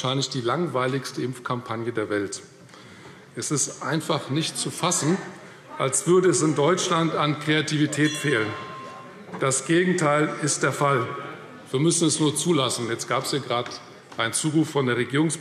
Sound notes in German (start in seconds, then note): 11.1 Zurufe – Glockenzeichen